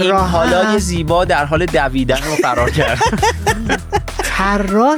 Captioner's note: laughs